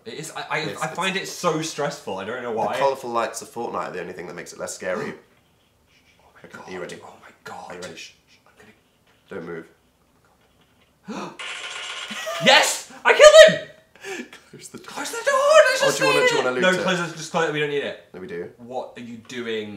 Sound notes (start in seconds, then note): 5.1 gasp; 14.0 gasp